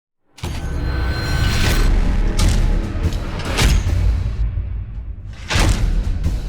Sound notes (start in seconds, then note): 2.3 metal clanging